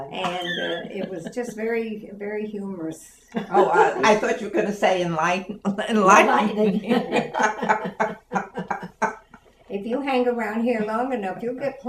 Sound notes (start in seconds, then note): 6.1 laughs